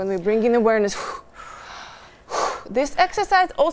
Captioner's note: exhale